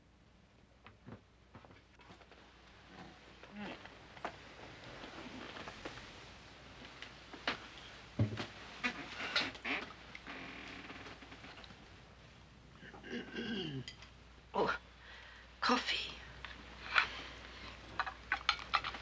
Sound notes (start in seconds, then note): 12.9 woman clearing her throat